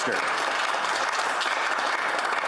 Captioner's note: applause